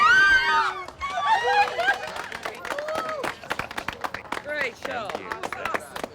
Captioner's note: cheers and applause; laughs